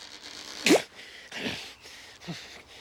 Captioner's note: panting